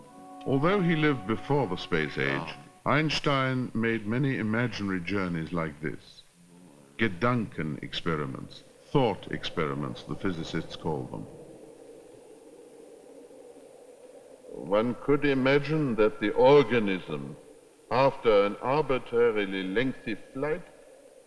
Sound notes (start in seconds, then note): 11.6 wind whooshing